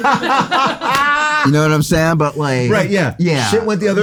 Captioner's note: everyone laughs